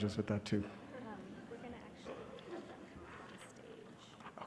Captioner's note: whispering